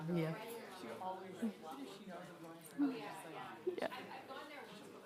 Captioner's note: attendees chattering